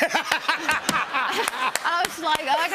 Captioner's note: laughter